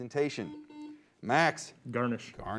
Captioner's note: beep